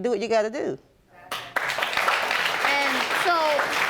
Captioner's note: audience applauding